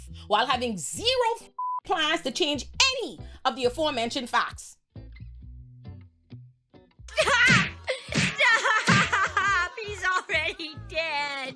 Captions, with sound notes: while having zero fucking plans to change any of the aforementioned facts. (laughing) He's already dead.